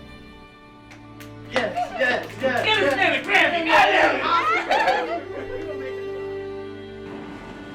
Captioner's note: group cheering